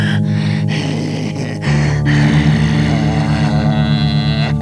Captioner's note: laughs maniacally